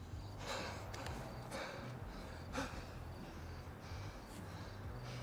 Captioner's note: Alex panting